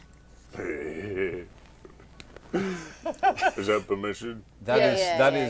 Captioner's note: happy grunts